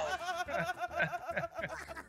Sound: laugh

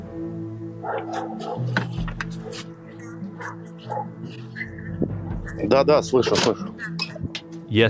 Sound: sounds of dogs, footsteps, wind, door slams

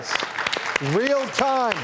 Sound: audience clapping

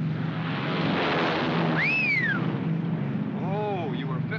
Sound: aircraft zooms; Lieutenant whistles

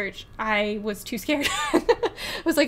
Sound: laughs

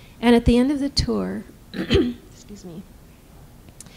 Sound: clears throat

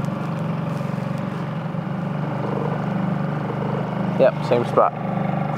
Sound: boat engine chugging

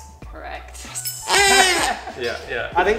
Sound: squeaks

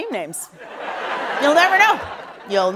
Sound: laughter

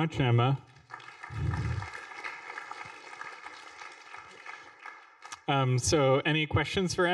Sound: applause

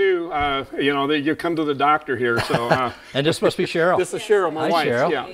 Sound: laugh

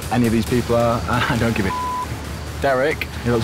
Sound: beep

